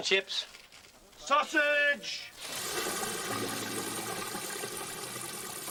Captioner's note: Chisporroteo de aceite caliente